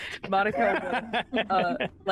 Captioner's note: Omega laughs